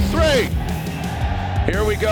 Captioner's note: crowd yelling